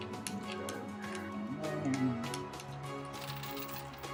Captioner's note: murmurs confusedly